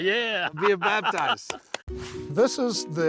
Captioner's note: laughing